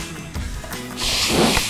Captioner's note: blows nose